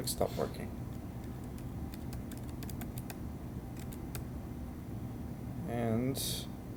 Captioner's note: sounds of Typing